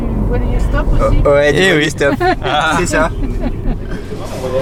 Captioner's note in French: rires